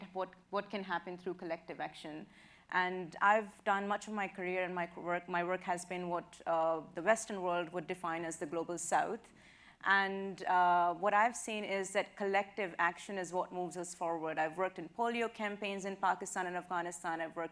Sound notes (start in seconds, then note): none